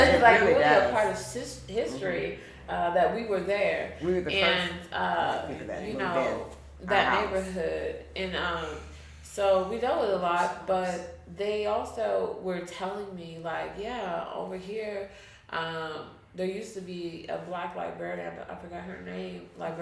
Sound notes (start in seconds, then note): 0.0 chuckles; 4.7 speaking faintly